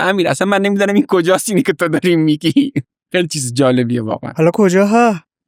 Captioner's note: laughs